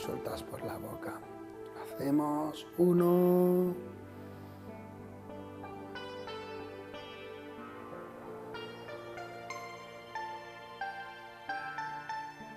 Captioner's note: deep breath